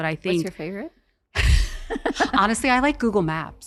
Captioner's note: laughs